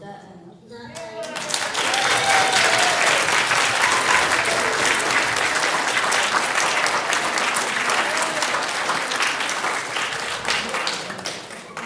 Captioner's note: applause